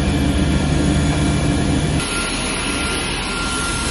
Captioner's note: machine roaring